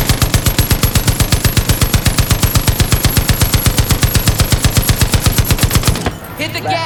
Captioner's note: gunfire